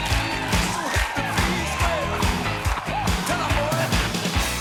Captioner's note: choking sound